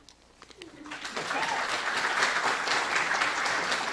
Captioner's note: applause